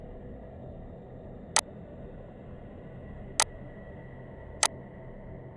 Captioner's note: mouse clicking